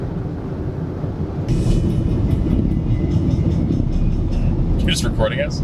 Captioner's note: car engine whirring